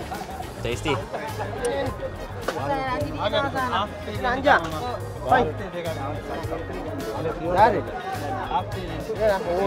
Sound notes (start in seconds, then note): 2.3 lighthearted music; 2.3 speaking foreign language